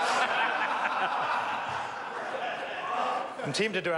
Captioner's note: members laugh